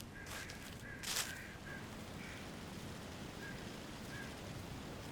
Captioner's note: crows cawing; leaves rustling